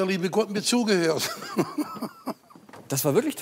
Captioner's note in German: lacht